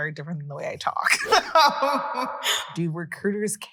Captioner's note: laughing